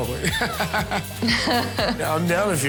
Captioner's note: laughs; laughs awkwardly